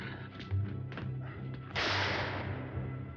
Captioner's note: gunshot